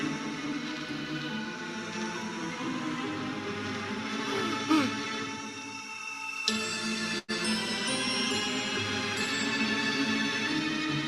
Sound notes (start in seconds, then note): 4.3 gasps; 6.5 thrilling music